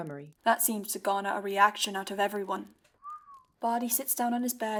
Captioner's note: Evan lets out a low whistle